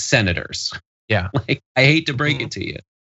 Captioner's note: laugh